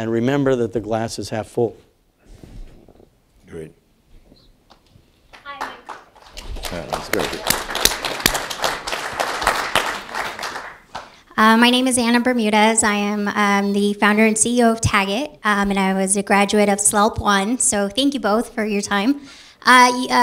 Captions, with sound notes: remember that the glass is half full. >> All right. >> [APPLAUSE] >> My name is Anna Bermudez. I am the founder and CEO of TAGit and I was a graduate of Slope 1. So thank you both for your time.